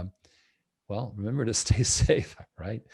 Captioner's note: chuckles